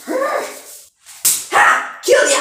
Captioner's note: clap